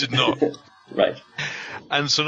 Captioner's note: both laughing